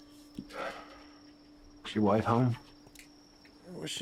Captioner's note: sighs